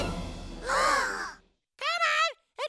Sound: kids gasp

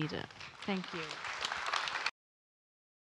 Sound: audience applause

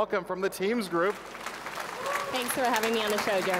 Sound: audience clapping

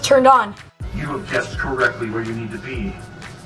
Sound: television

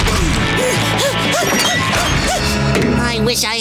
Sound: panting

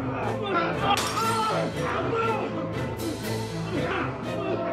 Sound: shards clattering

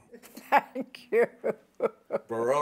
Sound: laughs

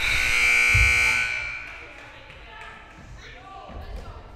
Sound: loud buzzer blaring

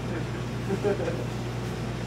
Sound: crew chuckling

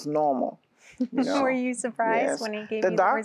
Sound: giggling

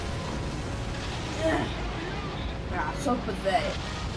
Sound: gunfire

